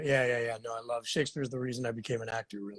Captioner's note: laughs